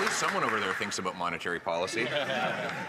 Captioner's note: some Applause